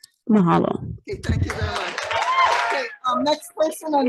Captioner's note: audience applauding